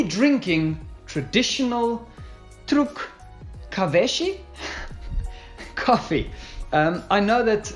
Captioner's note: giggles